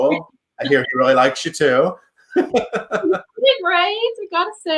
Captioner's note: laughs